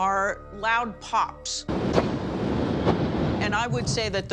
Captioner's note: distant popping